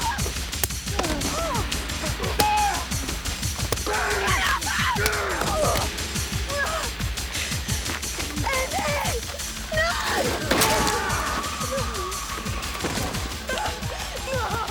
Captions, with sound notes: Get off him! (both grunting) Get off him! (Graham grunts) (Jodie groaning) No. Andy, no! (Graham grunts) (van door thuds)